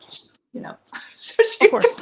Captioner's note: laughs